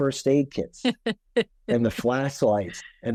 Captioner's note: laughing